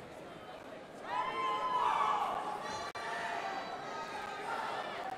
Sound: indistinct chatters

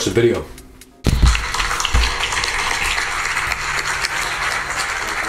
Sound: audience applauding

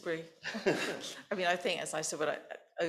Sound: both laughing

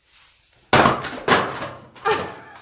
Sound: banging; laughing

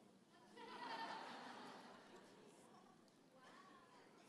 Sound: audience laughing

